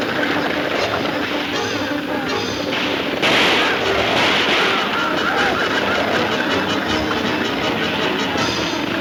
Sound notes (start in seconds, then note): 2.7 guns firing